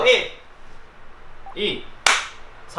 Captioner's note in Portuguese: palmas